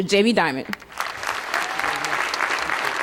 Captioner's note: cheers, applause